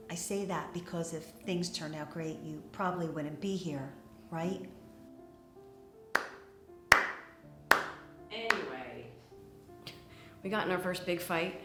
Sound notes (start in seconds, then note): 7.7 Hilary claps